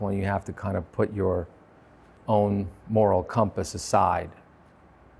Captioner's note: none